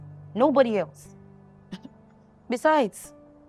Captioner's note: scoffs